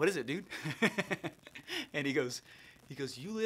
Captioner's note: laughing